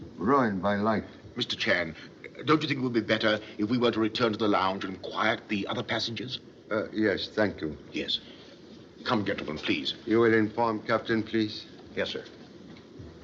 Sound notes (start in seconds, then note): none